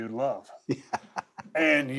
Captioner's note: laugh